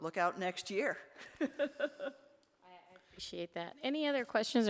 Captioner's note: laughs